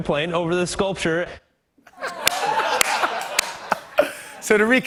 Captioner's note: laughter